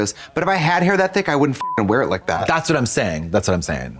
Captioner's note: beep